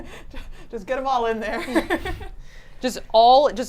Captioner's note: laughs